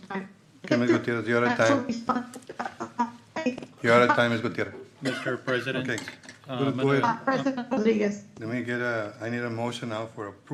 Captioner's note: laughter